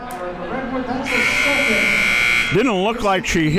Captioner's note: buzzer rings